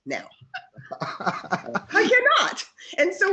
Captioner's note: laughs